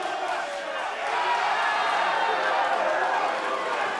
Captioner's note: fans chanting